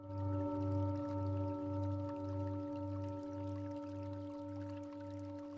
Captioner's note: sound of water